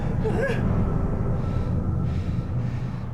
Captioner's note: Mirabeth whimpers; suspenseful music